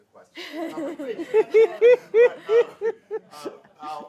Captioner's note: laughter